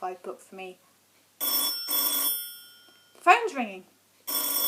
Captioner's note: phone rings